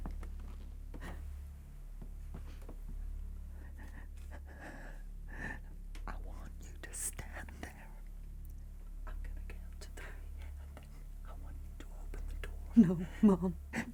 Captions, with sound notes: [panting] I want you to stand there. I'm gonna count to three and then I want you to open the door. - No, Mom. [whimpering]